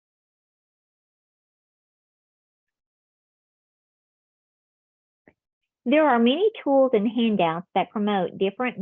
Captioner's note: silence